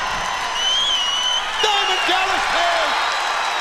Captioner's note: crowd cheering